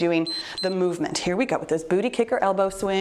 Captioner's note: timer beeps